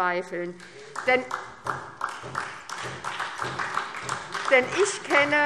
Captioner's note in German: Beifall SPD